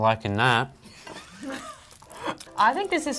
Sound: all giggling

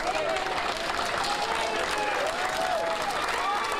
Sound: nat sound of cheering

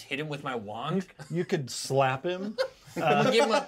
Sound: chuckles; laughs; speaker laughs

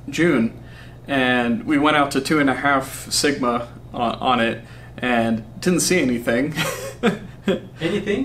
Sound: laughs

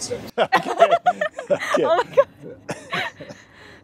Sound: laughing

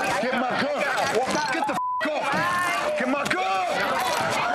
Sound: beep

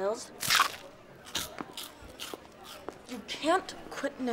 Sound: crunching

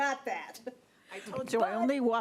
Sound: laughing

